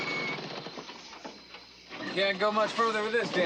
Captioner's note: engine off